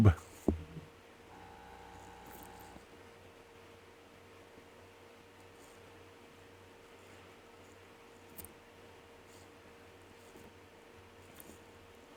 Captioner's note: silence